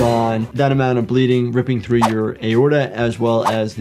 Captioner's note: dramatic music; screen whooshing